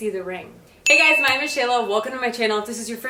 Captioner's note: bell dings